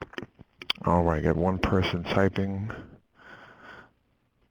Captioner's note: voiceover